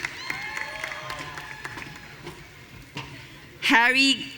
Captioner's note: audience cheering